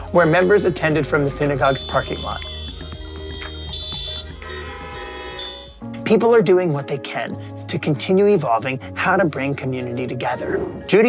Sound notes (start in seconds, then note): 2.9 cars honking